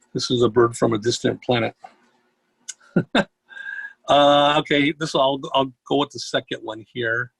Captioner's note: chuckles